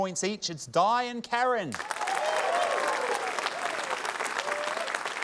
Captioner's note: applause